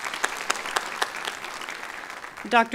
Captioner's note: applause